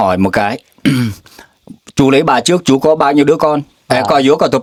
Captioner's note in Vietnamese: hắng giọng